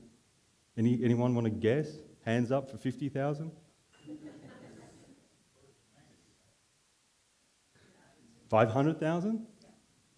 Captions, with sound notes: Anyone wanna guess? Hands up for 50,000. (laughing) 500,000? - Yes.